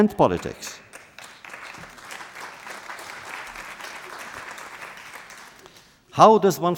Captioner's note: applause